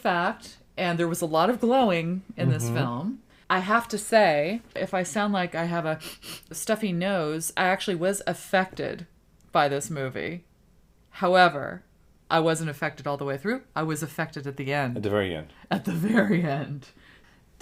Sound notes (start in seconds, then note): 6.0 sniffs